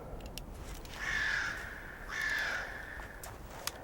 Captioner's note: birds cawing